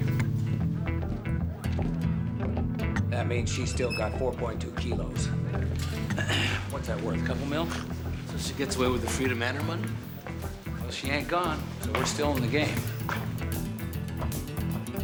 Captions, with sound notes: Thank you. That means she's still got four point two kilos. (clears throat) What's that worth, a couple mil? So she gets away with her freedom and her money? Well, she ain't gone, so we're still in the game.